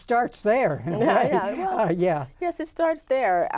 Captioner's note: laughs